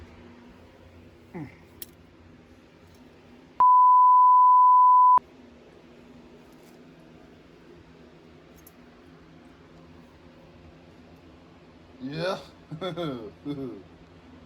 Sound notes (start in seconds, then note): 8.9 chuckles